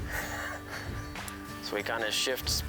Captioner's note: both laughing